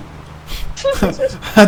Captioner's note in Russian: Смех